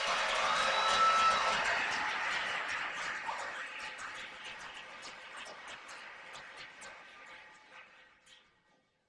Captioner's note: cheers and applause